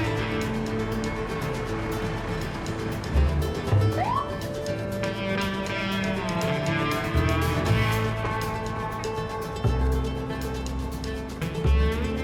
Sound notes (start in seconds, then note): 3.9 siren beeps